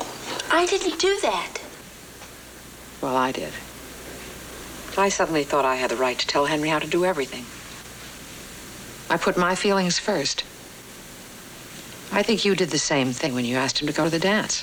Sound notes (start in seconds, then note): none